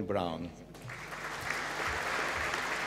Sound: applause

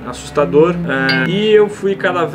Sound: ding!

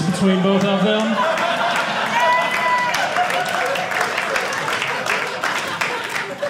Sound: audience cheering

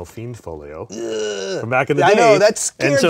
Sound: grunting

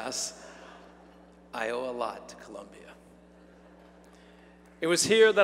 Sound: laugh

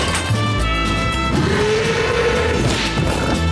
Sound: roaring

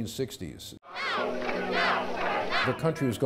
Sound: crowd

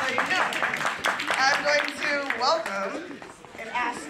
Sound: applause

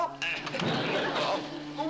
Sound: in high voice

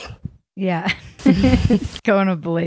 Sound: laughs

